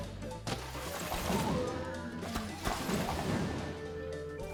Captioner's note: blast sounds